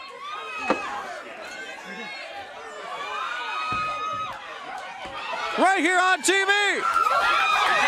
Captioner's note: crowd cheering